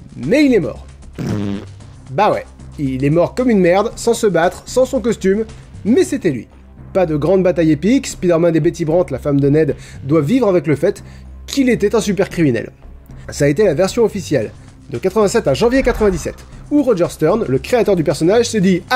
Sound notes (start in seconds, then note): 1.1 fart